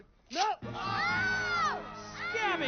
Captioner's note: screaming